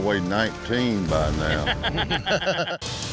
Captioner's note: laughter